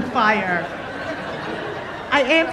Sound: audience laughing

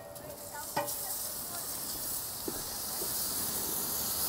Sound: butter sizzling

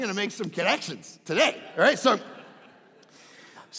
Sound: crowd laughing

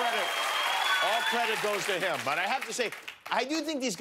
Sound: cheers and applause

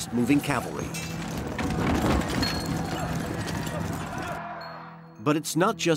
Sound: horse hooves thundering

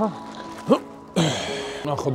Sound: grunts

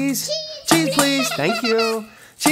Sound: children laughing

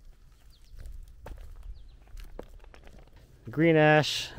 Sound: birds chirping

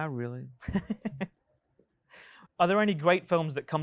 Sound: host laughs

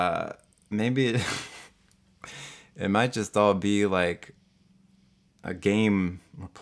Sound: laughs

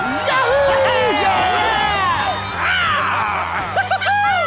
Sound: cheering

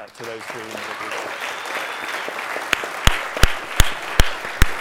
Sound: applause

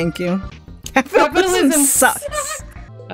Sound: laughs in unison

